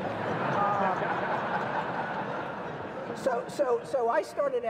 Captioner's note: audience laughs